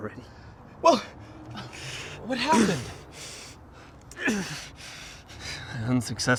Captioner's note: Mark grunting